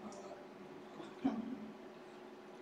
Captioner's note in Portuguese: risos